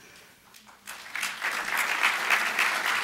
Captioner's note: applause